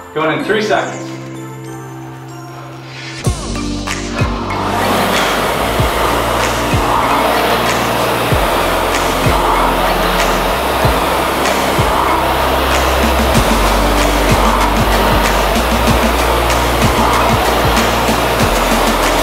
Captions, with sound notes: Going in three seconds. (upbeat music) (equipment whirring)